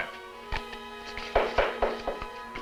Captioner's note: knocking at door